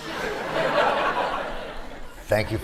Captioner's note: laughter